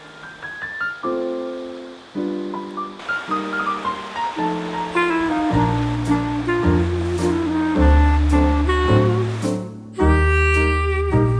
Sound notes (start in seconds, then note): 0.3 jazz plays; 2.9 water flowing